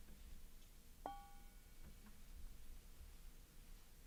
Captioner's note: bell tone